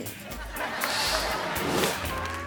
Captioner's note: audience laughing; image whooshes; gentle upbeat music